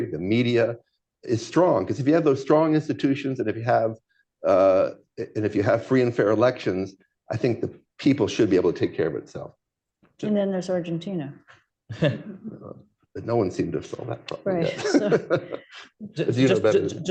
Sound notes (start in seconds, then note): 11.5 laughter; 13.9 laughs